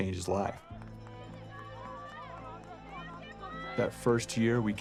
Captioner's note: cheering